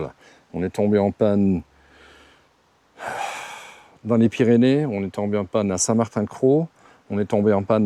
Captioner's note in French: soupir